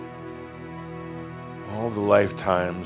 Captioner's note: none